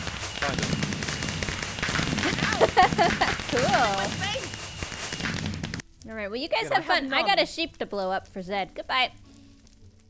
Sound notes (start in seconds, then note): 2.2 laughs